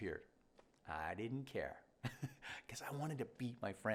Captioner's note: chuckles